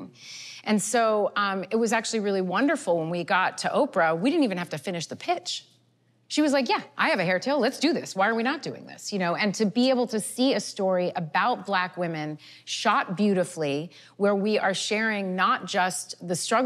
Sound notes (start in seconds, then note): none